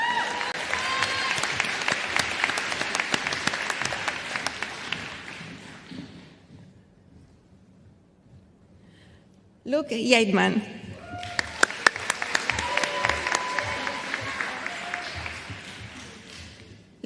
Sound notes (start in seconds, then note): 2.6 applause